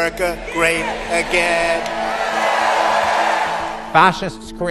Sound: cheering and applause

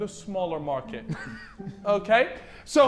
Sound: Vikram chuckling

